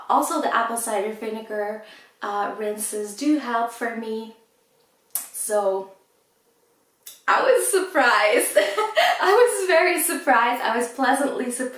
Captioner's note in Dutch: lacht